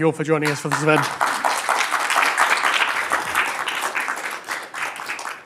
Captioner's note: applause